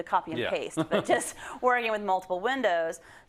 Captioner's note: laugh